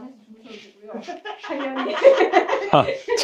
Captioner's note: Scratch